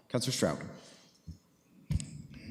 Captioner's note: audio drop